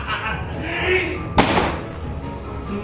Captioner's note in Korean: 섬뜩한 웃음 - 계속; 들숨; 문 닫는 소리